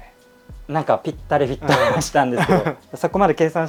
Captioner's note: laughs